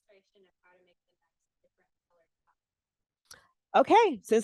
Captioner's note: breaking voice; breaking voice